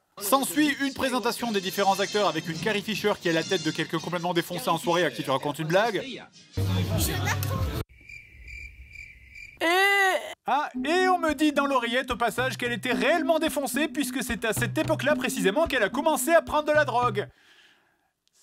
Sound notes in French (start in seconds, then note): 7.9 bruit nocturnes; 9.5 cri de défoncée